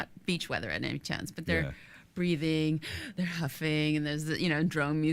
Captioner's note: inhales sharply